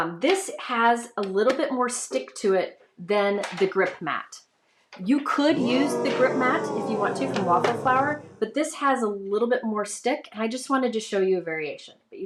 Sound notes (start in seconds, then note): 5.9 computerized voice booing